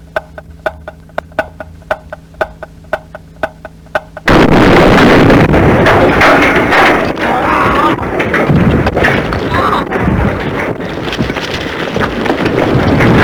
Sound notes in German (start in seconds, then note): 4.2 Explosion